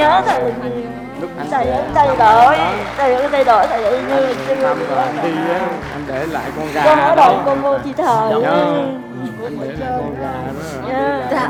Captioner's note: sobbing, inaudible